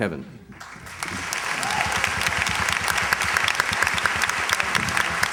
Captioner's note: applause